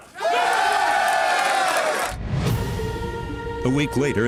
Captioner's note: applause